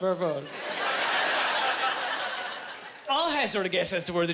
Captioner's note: laughing